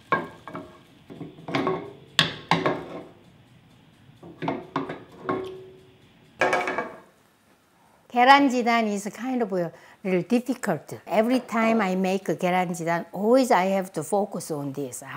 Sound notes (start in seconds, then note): 1.1 pot thudding; 6.4 pot thudding